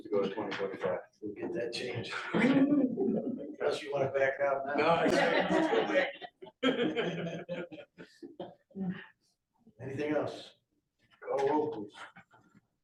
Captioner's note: laughter; laughter